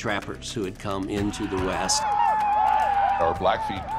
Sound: whooping sounds

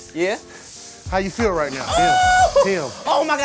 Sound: exclaims

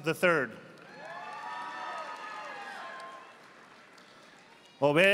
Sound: audience applauding

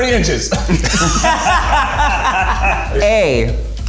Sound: all laughing

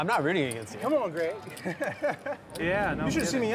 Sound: laughs

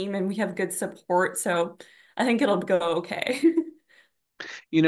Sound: laughs

